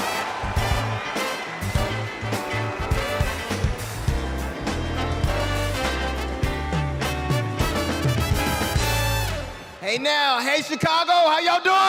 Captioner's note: cheers and applause